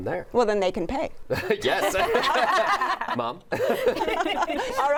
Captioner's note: laughter